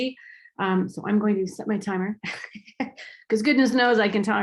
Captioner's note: laughs